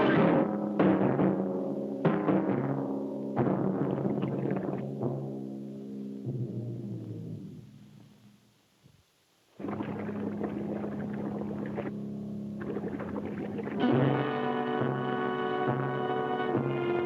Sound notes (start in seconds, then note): 9.5 water bubbles; 14.2 dramatic music